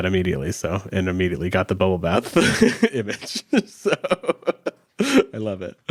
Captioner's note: chuckles